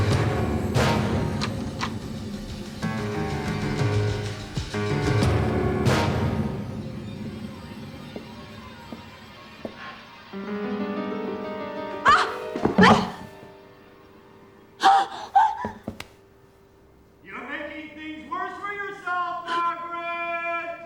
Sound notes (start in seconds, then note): 12.0 exclaims; 14.8 gasps